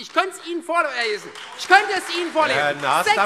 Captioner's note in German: Beifall Freie Demokraten, vereinzelt SPD und AfD